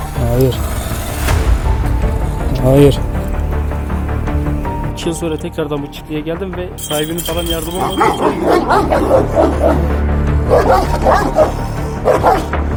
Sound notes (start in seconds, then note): 0.0 growling sound; 3.0 thriller music sound; 8.6 barking sounds